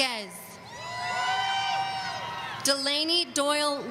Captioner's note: audience cheering